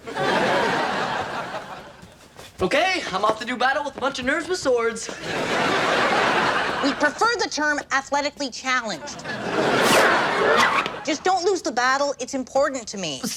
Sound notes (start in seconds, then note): 0.0 audience laughs; 5.0 audience laughs; 9.0 audience laughs